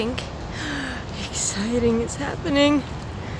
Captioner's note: gasp